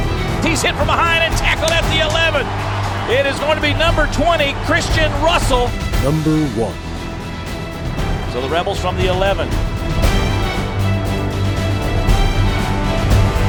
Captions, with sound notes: He's hit from behind, and tackled at the 11. It is gonna be number 20, Christian Russell. - [Voiceover] Number one. - [Voiceover] So, the Rebels from the 11. (intense instrumental)